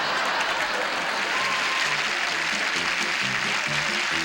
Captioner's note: laughter; applause